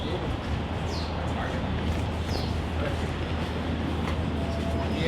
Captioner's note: background chatter